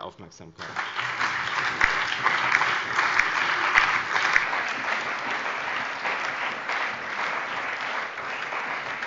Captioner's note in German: Starker Beifall